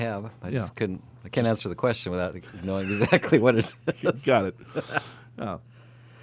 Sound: laughs

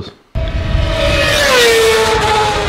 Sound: engine sound

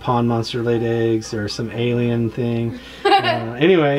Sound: laughing

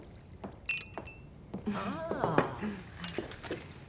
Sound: teapot rattles

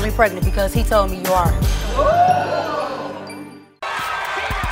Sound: audience oohing

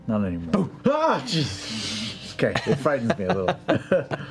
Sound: yelps

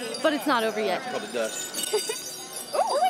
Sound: giggles

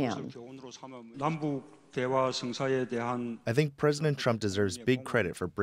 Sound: through translator

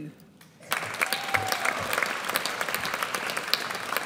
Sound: audience applauds

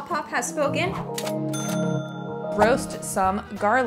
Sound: bell dinging

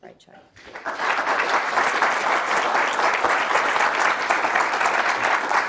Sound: audience applauding

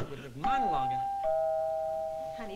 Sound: doorbell rings

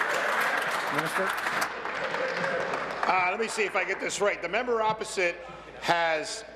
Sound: applause

